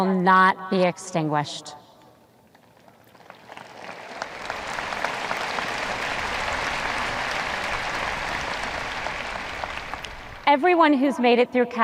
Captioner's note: audience applause